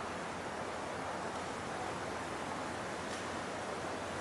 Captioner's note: none